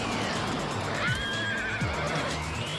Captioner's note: horse neighing